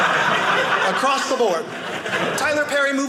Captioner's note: audience laughing